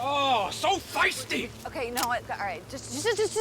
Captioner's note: gun clicks